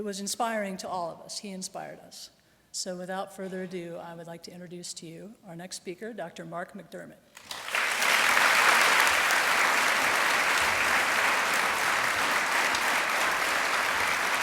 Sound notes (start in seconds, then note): 7.3 applause